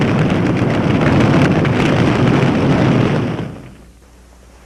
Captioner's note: flames crackling